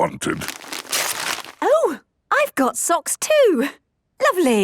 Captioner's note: tearing